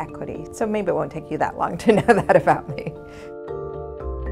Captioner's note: laugh